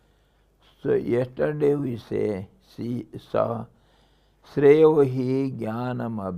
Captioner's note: sanskrit